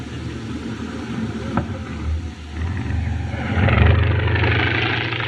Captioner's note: plane Flies Overhead